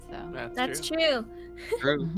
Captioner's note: chuckles